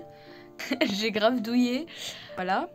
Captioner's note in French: rire